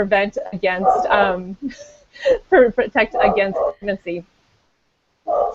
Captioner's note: dog barking